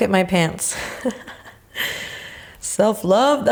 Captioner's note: chuckling